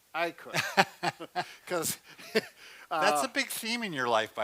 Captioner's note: laughs